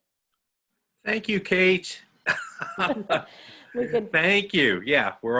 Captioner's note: laughs